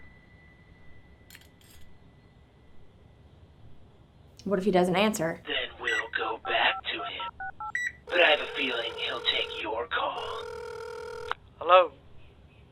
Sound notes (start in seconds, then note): 10.1 phone ringing